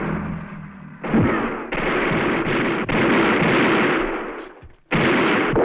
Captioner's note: gunfire